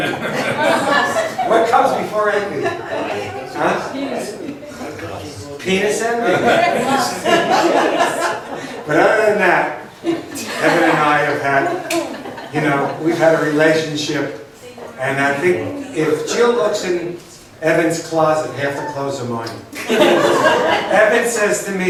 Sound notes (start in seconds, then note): 0.0 laughs; 3.8 overlapping chatter; 6.2 laughs; 19.7 laughs